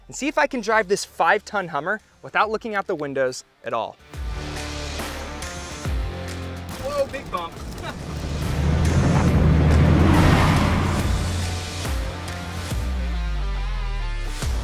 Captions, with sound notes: and see if I can drive this five ton Hummer without looking out the windows at all. (upbeat music) Whoa, big bump. (car engine roars) (upbeat music)